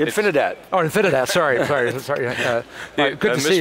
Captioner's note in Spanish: se ríe